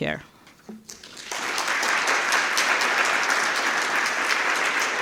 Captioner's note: applause